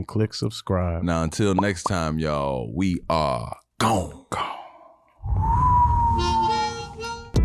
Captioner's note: whistles